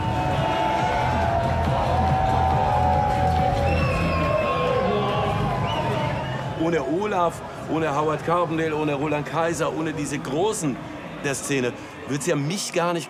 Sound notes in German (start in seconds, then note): 3.5 Pfiffe